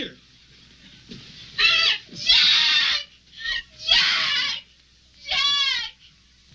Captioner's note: wailing